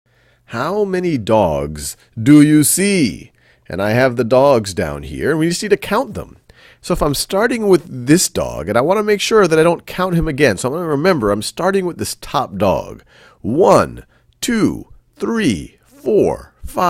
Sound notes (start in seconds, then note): 0.6 voiceover